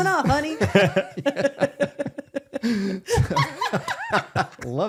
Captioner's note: all laughing